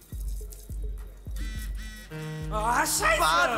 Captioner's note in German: Klingelton